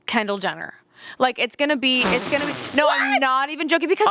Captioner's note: laughing